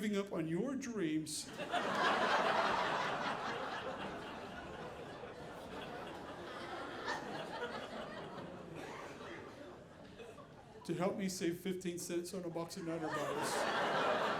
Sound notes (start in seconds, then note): 1.4 audience laughing; 12.8 audience laughing